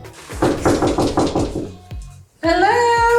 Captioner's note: door knocking